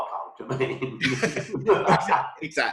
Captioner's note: laughing